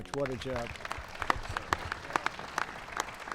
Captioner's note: applause